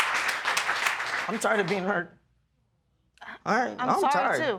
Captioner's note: voice breaking